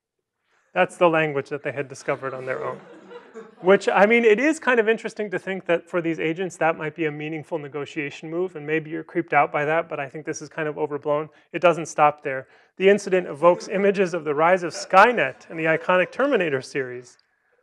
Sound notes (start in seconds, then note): 1.6 laughter